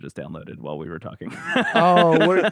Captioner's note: laughs